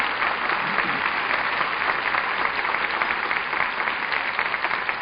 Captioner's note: audience applauding